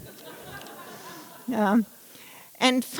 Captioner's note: laughter